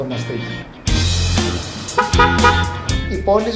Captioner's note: car horn